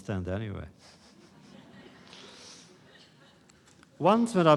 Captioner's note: laughter